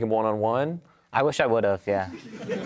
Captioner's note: audience laughs